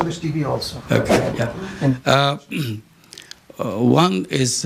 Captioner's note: laughter